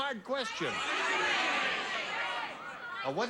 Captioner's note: audience shouting